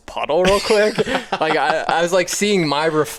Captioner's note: laughs